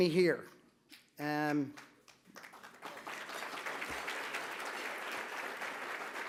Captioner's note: applause